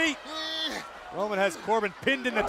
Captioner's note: Corbin grunting